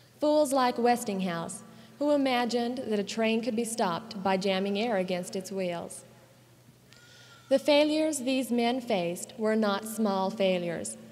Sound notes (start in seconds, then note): none